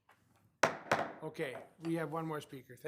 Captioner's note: gavel pounding